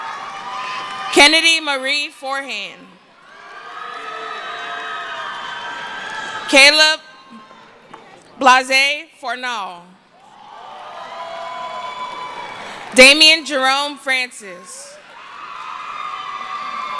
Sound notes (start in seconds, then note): 0.0 cheering; 10.2 cheering; 14.8 cheering; 15.1 screaming